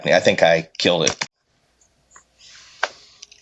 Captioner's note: keyboard clicking